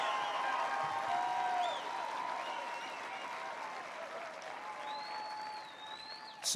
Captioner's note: applause